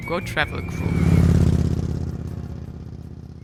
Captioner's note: motorbike roaring